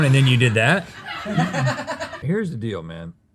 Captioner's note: laughter